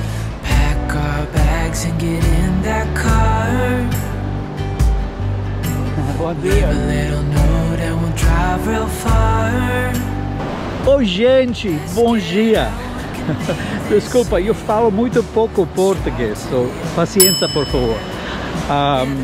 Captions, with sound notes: pack our bags and get in that car [SPEAKING PORTUGUESE] Hello everybody, good morning. Sorry, I speak just a little bit of Portuguese, so please be patient